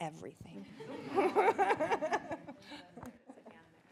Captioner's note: audience laughs